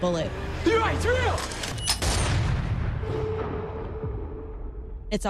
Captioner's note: gun fires, echoes